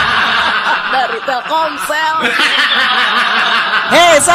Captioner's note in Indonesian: tertawa